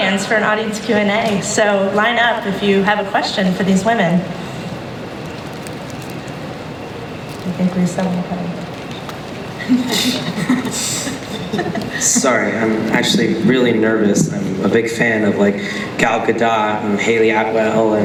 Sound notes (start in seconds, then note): 9.6 laughter; 12.2 voiceover